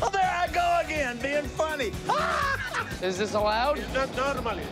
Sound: laughter

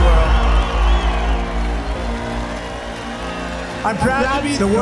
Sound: applause

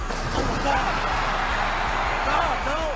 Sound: Jerry Lawler screaming; water splashes

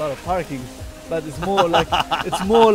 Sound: presenter laughs

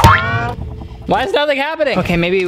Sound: banging

